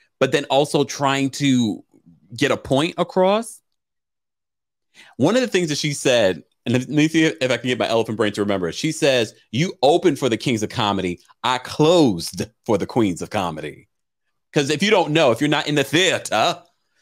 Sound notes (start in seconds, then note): none